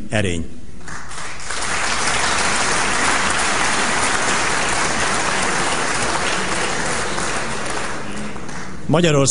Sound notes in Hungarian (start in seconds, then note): 0.8 Taps a kormánypártok soraiban